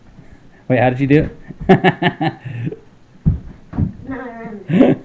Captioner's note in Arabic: يضحك